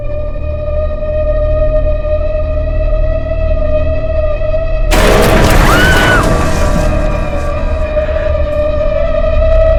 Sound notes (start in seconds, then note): 4.9 screams